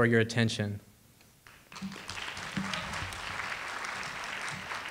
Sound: audience applauding

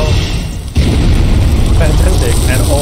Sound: flames whoosh

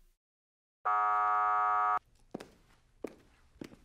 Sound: buzzer blares

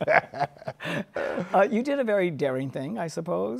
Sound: laughs

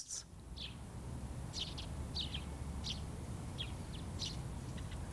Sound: birds chirping

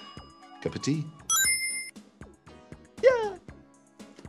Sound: chime rings

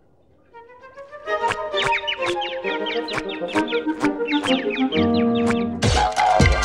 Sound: chirping

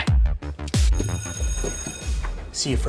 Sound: dramatic music; bell ringing; dramatic music

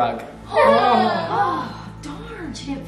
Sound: gasping

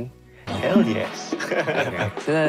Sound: chuckles

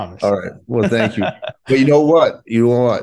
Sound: laughing

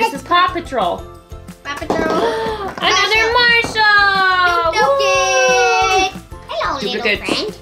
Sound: gasp

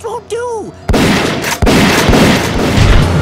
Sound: shotgun sounds; bullet impact

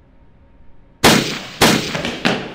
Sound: gunshots

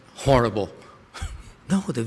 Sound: laughter

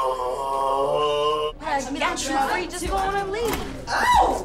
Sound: arguing

